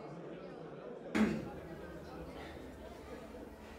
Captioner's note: Robert clears throat